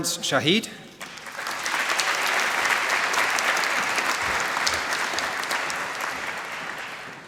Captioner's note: applause